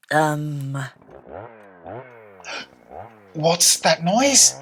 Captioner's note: sound of a Chainsaw